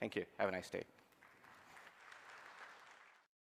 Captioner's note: applause